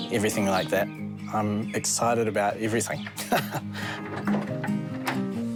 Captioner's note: laughs